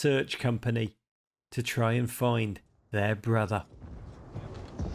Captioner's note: explosions rumbling